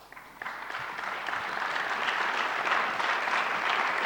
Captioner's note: audience applauds